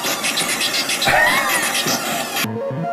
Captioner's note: laughs